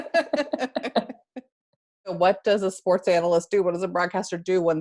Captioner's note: laugh